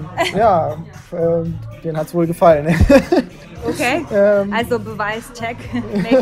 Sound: laughing

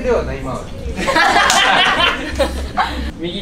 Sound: laughter

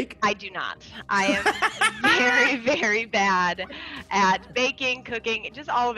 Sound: laugh

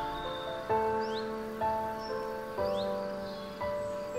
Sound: forest sounds, music fades off

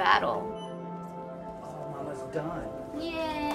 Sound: beeping

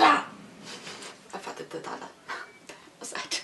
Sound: laughs

